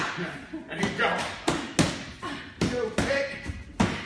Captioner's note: pads being hit